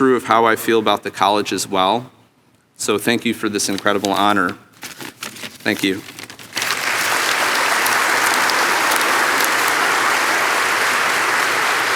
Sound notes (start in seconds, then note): 6.6 audience applauding